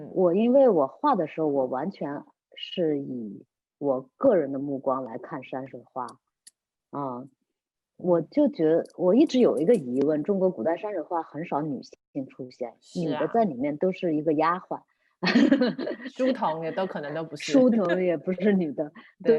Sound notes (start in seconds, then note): 15.3 laughs